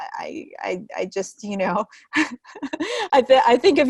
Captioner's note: chuckling